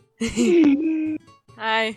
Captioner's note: drunk laugh; gasp of air